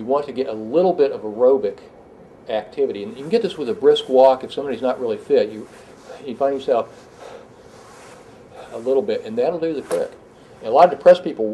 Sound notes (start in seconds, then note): 6.9 breathing heavy